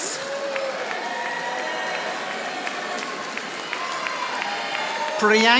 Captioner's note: audience applauding